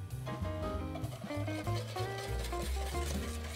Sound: whisking

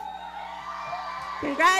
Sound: audience cheering and clapping

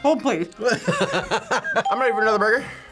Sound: laughs

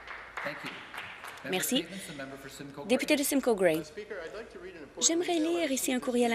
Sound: some Applause

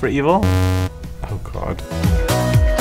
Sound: buzz

